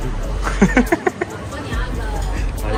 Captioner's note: laughs